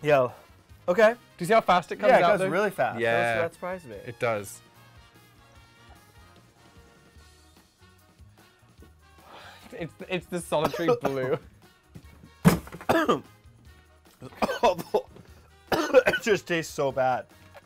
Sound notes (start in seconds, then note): 5.0 upbeat music; 10.6 coughing